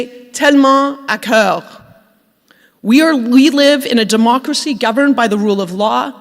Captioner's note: speaking French